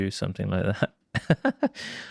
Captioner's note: chuckles